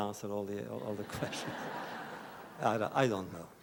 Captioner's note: laughter